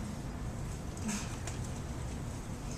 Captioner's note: laugh